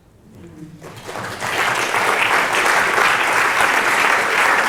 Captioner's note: audience applauds